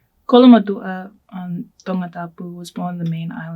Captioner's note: speaking foreign language